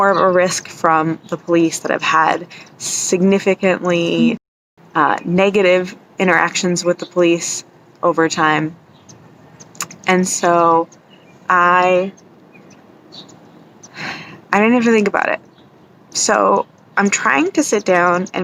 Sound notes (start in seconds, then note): 10.3 sigh